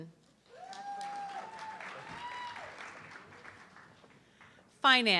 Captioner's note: audience clapping